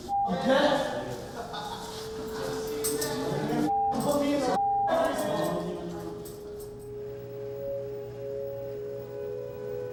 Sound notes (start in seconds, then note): 1.2 laughter